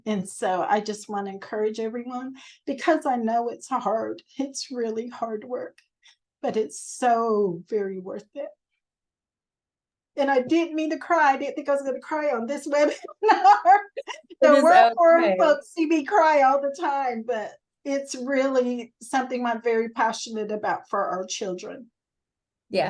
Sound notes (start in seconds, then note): 12.8 laughter